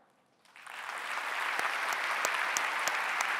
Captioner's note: clapping